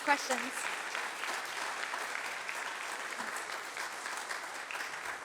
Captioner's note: applause